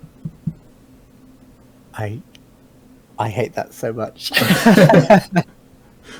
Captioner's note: laughing; both laughing